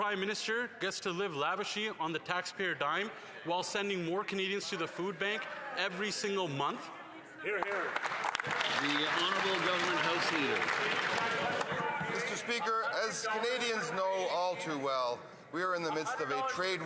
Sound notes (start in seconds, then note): 12.7 some Applause